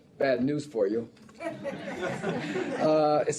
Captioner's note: laughter